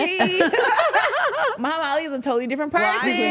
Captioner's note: everyone laughing